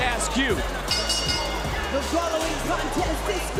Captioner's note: bell rings